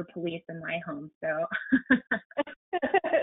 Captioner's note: laughter